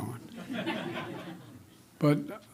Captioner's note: laughter